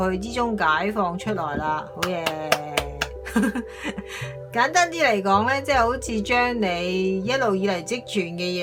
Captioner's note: clapping hands for good